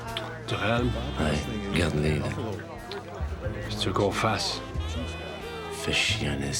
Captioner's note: biker speaking foreign language; bikers speaking foreign language